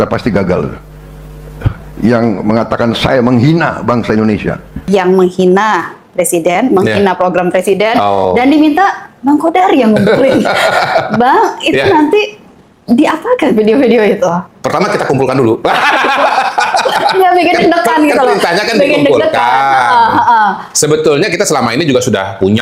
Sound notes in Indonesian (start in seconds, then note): 15.6 tertawa